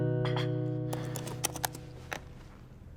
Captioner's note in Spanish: tecleo